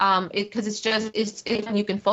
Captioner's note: technical interference